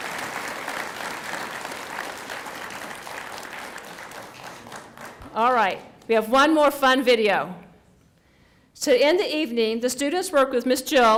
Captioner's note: applause